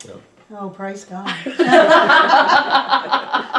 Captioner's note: laughter